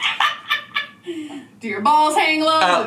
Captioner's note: laughing